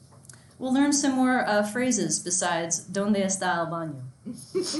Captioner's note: in foreign language; laughs loudly